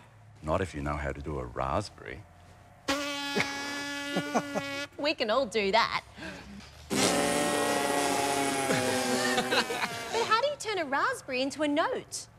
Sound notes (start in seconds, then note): 2.8 blows raspberry; 6.8 all blow raspberries